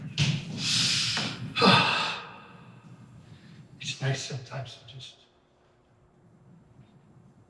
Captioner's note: sighs